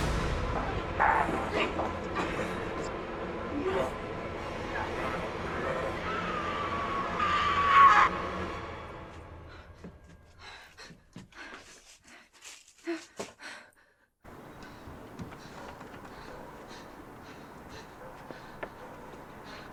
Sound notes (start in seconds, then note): 0.1 intense music; 6.1 Linda screaming; 9.7 Tilly huffing